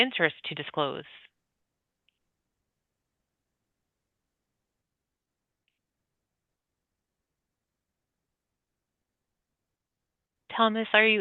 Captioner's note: pause